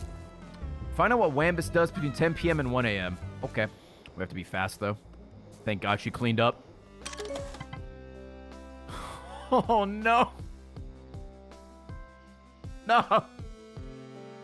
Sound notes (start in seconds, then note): 9.1 laughs